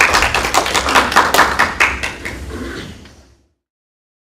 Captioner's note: applause